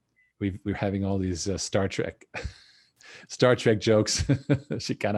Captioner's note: laughs